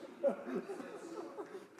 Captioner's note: laughter; applause